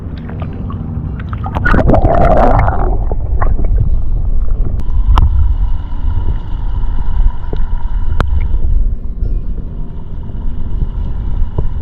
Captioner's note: underwater sounds